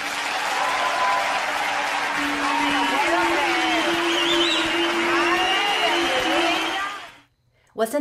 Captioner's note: applause; applause and whistles